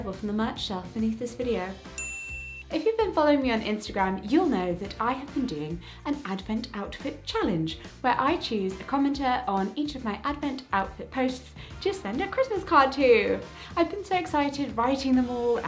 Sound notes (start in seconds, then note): 1.9 bell dinging